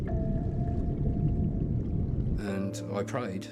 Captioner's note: water rumbles